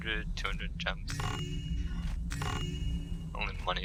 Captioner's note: joyful chimes